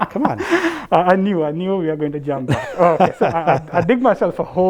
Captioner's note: laugh